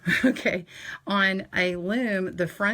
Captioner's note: laughs